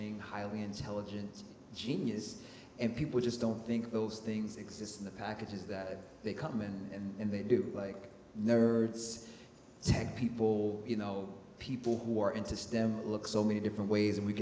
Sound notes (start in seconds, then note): none